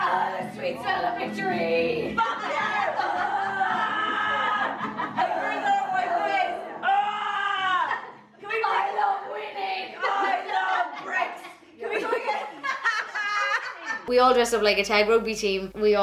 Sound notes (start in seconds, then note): 2.2 all shouting